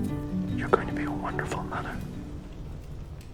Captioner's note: whispering